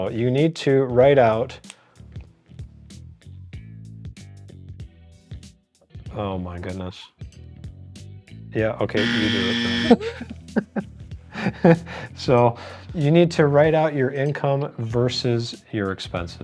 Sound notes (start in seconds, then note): 9.0 buzzer; 9.0 laughing